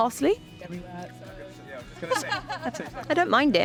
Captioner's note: group chattering and laughing